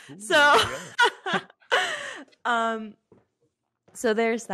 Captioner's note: laughs